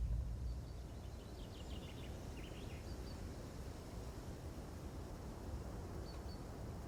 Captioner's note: nature sounds